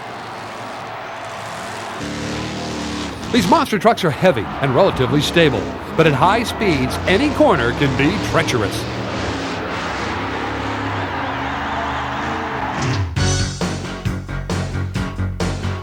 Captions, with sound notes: These monster trucks are heavy, and relatively stable. But at high speeds, any corner can be treacherous. (crowd roars) (funky electronic music)